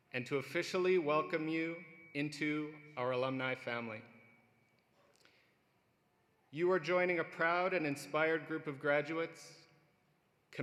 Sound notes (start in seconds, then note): none